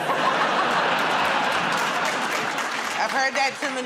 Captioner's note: laughter